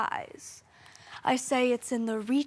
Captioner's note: soft breathing